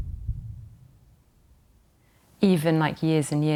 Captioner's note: heartbeat stops